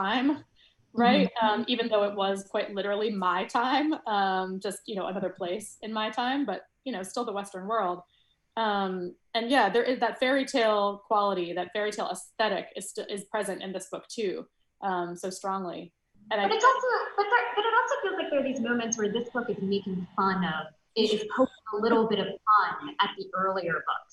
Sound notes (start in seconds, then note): 21.7 soft laughs